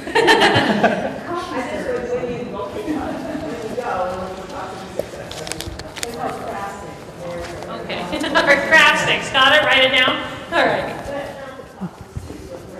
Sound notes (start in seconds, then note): 0.0 laugh; 2.9 crowd